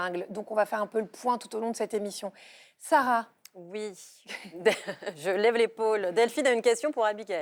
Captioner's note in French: rires